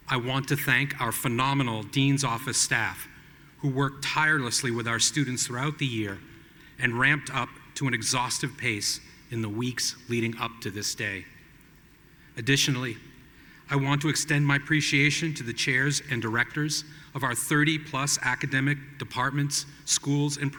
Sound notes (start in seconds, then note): none